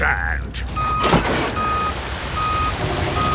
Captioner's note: beeping